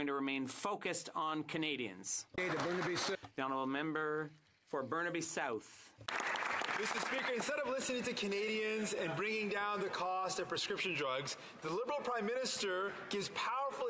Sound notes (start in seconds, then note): 9.0 some Applause